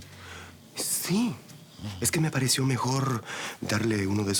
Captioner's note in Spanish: Ronquidos